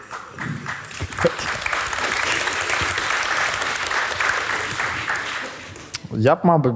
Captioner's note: the audience cheers